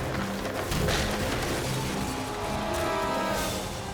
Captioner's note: car crashes; suspenseful music